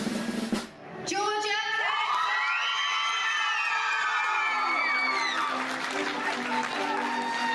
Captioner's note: drum roll; everyone cheering